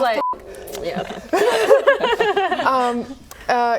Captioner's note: laughing